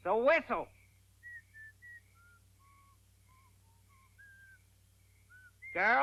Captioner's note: Orville whistles